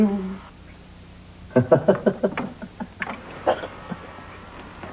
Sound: chuckles evilly while inserting LP

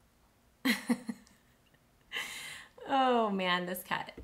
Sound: chuckles

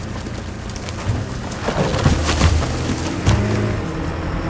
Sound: logs thud

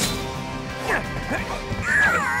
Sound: grunting

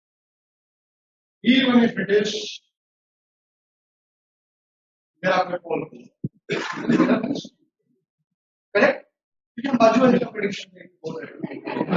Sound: laughter

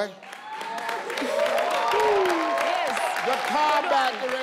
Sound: crowd cheering

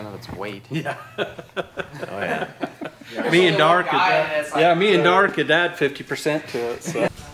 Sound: laughing

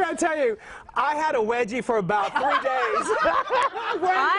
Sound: laughter

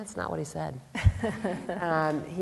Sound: laughter

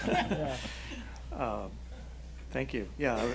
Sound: laughing

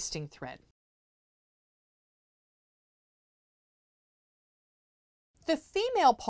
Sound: no Sound Present

